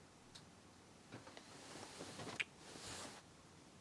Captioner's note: none